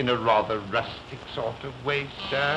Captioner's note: buzzing